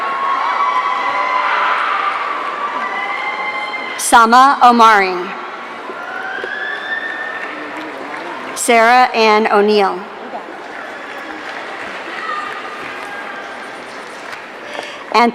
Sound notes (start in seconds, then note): 0.0 audience cheering; 10.1 audience cheering